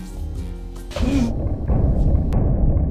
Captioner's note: gasp